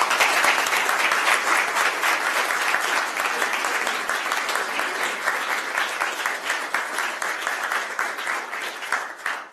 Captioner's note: applause